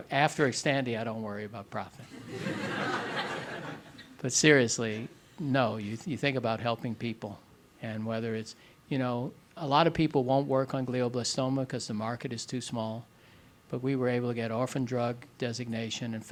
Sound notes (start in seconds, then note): 2.1 audience laughing